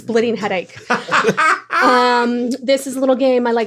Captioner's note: laughs